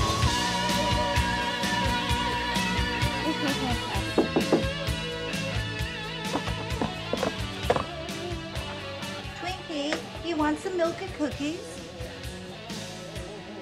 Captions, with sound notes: (soft rock music) (loud knocking) - Twinkie, you want some milk and cookies?